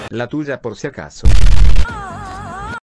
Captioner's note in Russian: бум